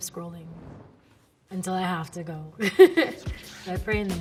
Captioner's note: laughing